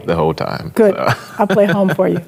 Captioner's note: chuckles